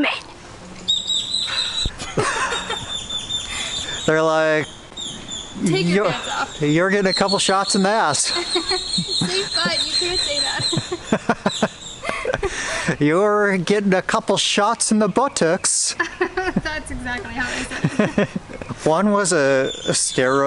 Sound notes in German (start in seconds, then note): 1.9 Gelächter; 10.4 Gelächter; 10.8 Lachen